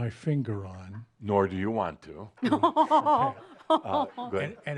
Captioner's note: laughs